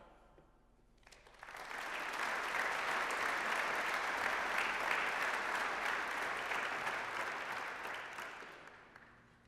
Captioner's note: applause